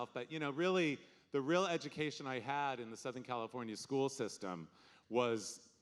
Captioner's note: none